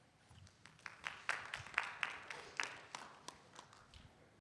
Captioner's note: audience applauds